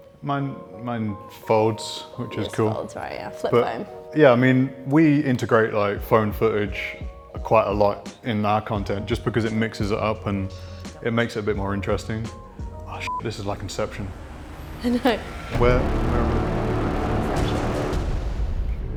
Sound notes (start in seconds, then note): 13.0 beep; 16.1 intense music